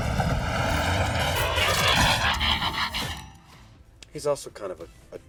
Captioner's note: mechanic noises